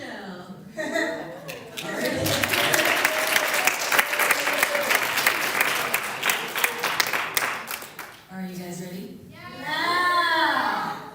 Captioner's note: applause